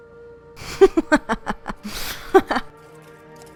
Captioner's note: Vyxxen laughs